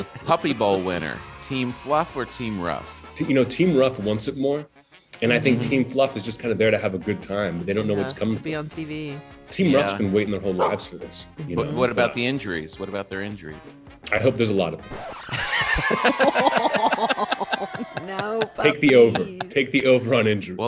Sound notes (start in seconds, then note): 15.0 record scratching; 15.3 hosts laughing